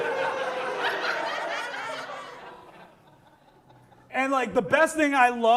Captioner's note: audience laughs